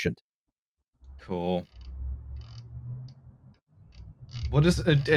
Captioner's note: distant traffic sounds